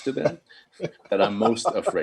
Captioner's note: chuckling